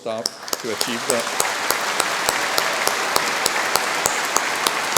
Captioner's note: applause